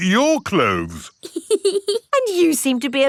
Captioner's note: laughs